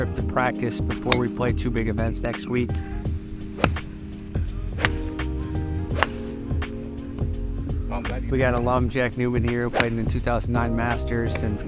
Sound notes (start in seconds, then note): 2.8 slow jazz music; 3.4 club whacking